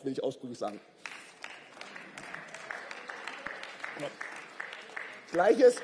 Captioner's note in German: Beifall